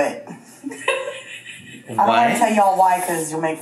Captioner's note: laughs